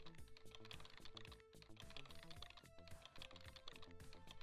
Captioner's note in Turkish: klavye sesi